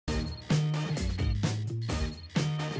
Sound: alarms beeping

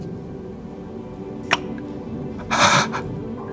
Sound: kiss

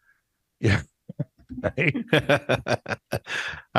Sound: laughs

